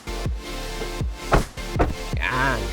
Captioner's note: doors thud